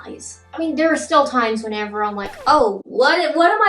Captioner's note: record scratches